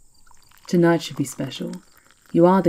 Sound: tea trickles into your cup

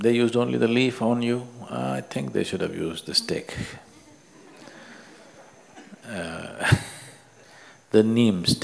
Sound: chuckles

